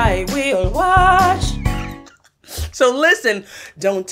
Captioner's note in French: rires